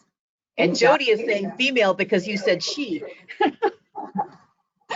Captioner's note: laughs